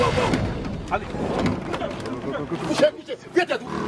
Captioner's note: foreign language